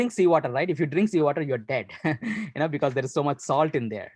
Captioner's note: laughs